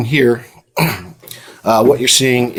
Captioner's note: clears throat